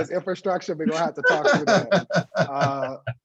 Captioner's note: laughter